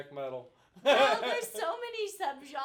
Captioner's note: laughing